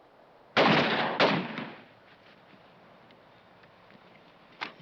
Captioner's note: gun firing